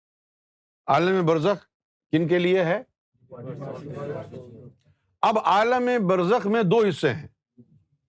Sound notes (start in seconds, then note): 3.3 audience replies